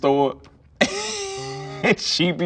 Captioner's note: laughs